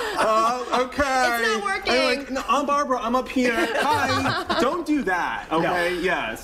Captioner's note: laughter